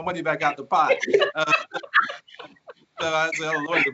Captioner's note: laughter